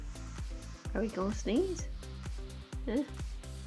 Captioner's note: quietly